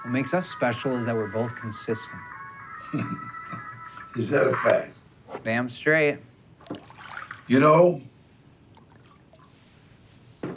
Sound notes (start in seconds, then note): 2.7 laughter